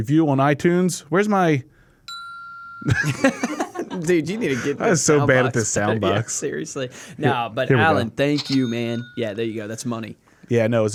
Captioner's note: bing